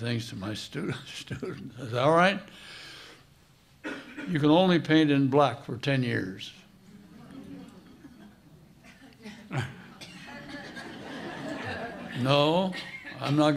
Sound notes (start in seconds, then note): 1.6 chuckle; 8.8 laughter